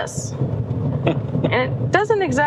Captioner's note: chuckling